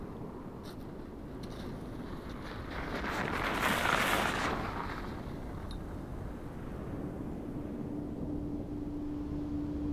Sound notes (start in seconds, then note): 2.4 snow squelching